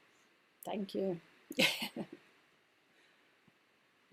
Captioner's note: laughing